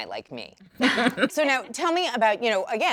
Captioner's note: women laugh